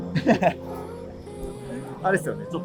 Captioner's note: laughing